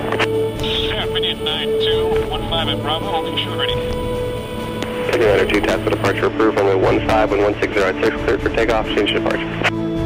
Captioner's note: radio tower chatter